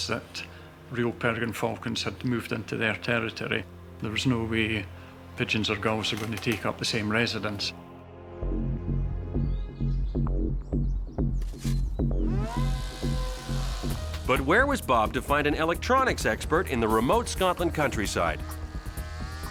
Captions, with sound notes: that real peregrine falcons had moved into their territory, there was no way pigeons or gulls are going to take up the same residence. [pensive music] [model buzzing] - But where was Bob to find an electronics expert in the remote Scotland countryside?